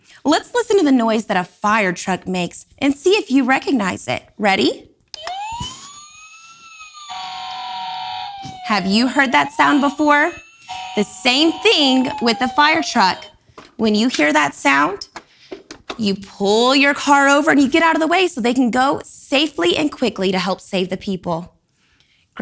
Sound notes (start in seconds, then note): 5.6 firetruck ringing